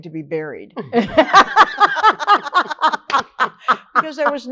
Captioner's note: all laugh